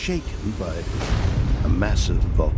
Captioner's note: boom